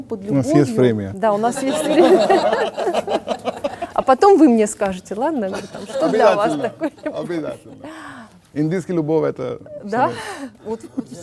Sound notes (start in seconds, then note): 1.4 laugh; 11.0 laugh